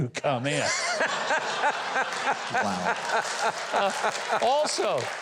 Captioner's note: audience laughs